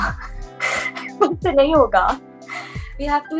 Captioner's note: laughs